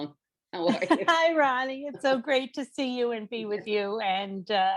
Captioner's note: laughs